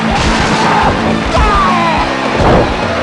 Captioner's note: Epic Diesel scream